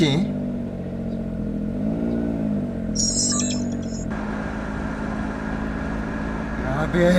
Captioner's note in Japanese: エンジン音